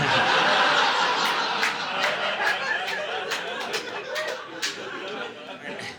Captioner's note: audience laughing